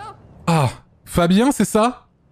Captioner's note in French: Dona soupire